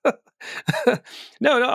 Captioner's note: laughing